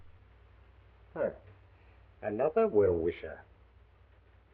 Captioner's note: scoffs